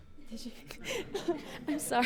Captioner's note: audience laughing; laughing